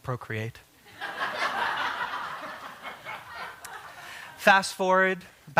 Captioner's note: laughter